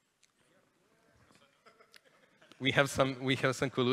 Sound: chatter, laughter in the audience

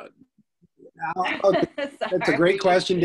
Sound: laughs

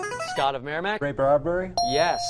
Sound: ding

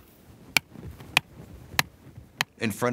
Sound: hammering in stake

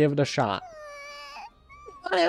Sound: whines

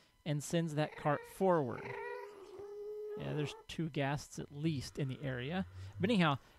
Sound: ghast squalls

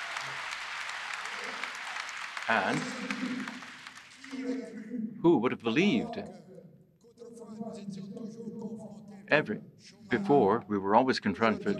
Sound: applause

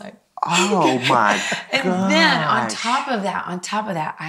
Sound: laughs

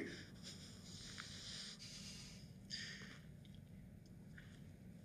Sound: heavy breathing

